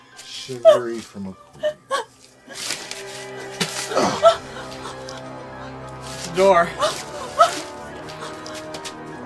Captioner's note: spit